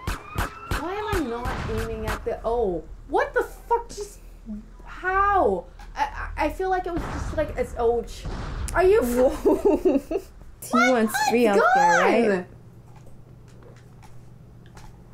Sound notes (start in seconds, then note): 9.2 laughing